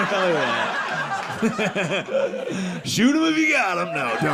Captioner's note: audience laughing